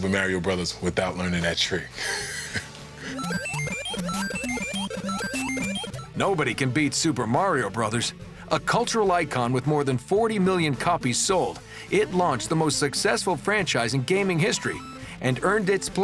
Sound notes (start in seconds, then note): 3.0 arcade sounds; 3.4 laughs